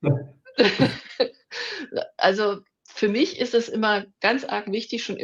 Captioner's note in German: gelächter